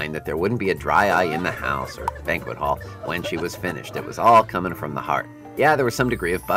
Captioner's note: friends crying at speech